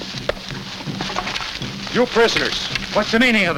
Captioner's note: boat rattles